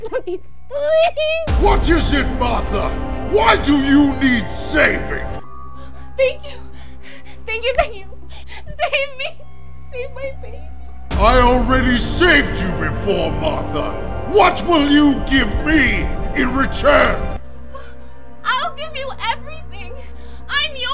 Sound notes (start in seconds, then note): 8.2 gasps